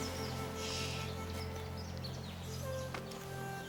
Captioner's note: shushes